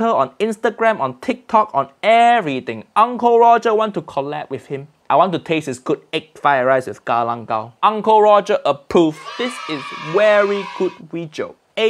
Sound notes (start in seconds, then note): 9.1 children cheering